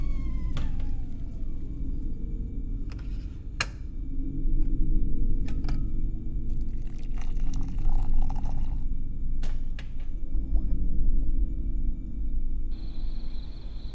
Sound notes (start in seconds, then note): 0.1 kettle clatters; 3.4 switch clicks; 6.5 water burbling; 9.8 kettle clanks; 12.6 crickets chirping; 13.5 thunder rumbling